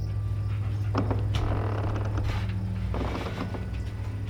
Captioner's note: door creaking